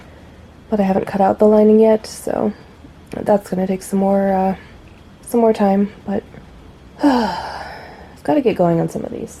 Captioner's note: sigh